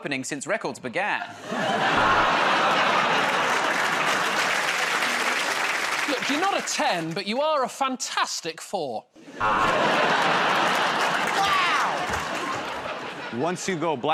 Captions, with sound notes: 'Cause you've got the biggest opening since records began. [ Buzzer buzzes ] [ Laughter and applause ] -Look, you're not 10, but you are a "Fantastic Four." [ Buzzer buzzes ] -Wow.